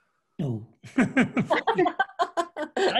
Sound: laughter

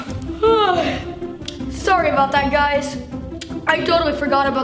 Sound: yawning

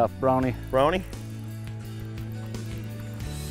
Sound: voiceover

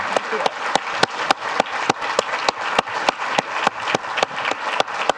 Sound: clapping

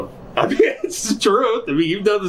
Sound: laughs

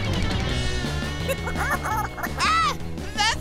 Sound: giggling

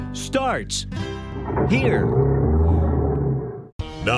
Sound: motor rolls over

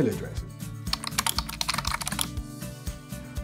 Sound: typing

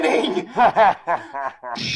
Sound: evil laughter

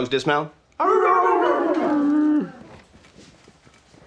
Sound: coaches barking and howling

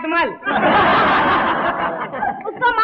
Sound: laughs

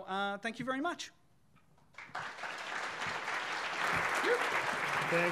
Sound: audience applauding

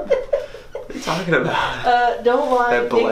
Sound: laughs

